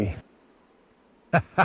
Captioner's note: laughs